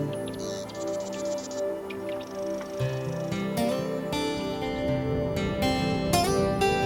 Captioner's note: birds chirping; gentle music